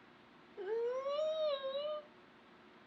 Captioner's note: groans